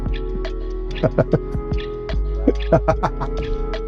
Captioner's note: laughs